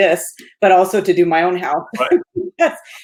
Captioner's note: laughs